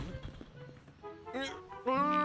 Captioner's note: pop; grunts